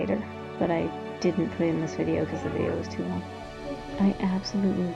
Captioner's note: kids in background